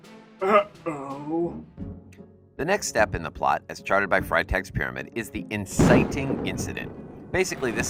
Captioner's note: Freytag explodes